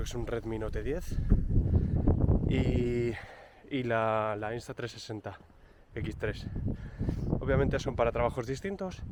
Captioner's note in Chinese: 英语